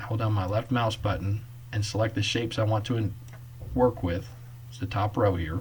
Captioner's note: click